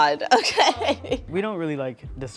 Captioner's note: laughing